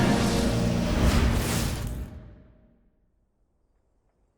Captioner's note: cinematic melodic music; whooshing